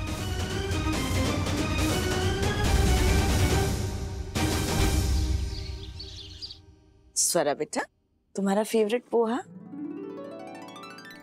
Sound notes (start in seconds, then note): 0.0 dramatic music playing; 5.0 birds chirping